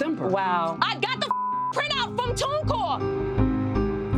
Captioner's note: beep